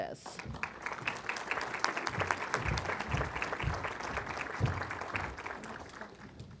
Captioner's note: applause